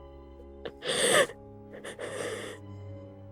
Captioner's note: patient sobs